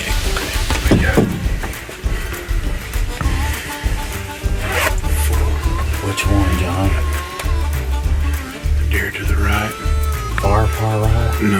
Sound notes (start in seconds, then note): 0.1 bluegrass music; 4.6 zipper zips